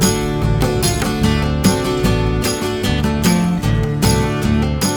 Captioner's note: birds chirping